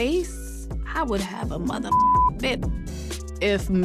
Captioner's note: beep